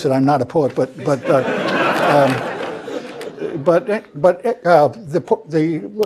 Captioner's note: laugh